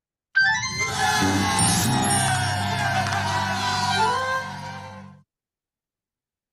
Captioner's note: people cheering; people applauding